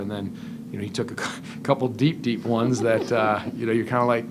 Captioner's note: chuckle